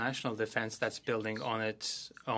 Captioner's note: speaking French